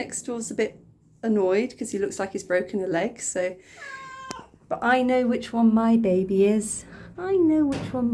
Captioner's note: meow